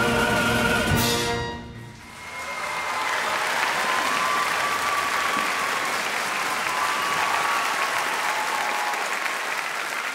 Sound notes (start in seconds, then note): 2.0 audience applauding